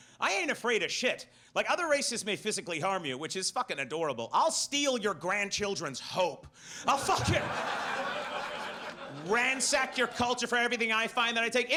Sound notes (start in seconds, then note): 6.9 audience laughs